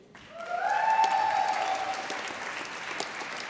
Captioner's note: applause